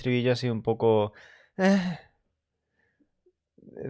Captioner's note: sighs in frustration